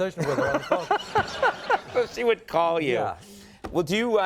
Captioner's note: Conan and audience laughs